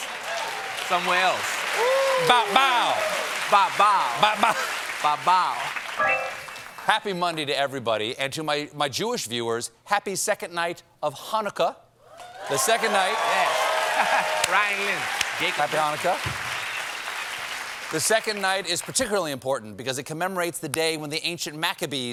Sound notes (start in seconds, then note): 6.0 piano riff; 17.5 cheers and applause